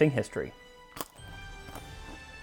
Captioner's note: crunch